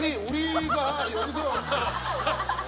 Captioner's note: hahaha